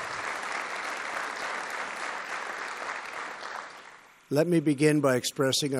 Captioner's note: applause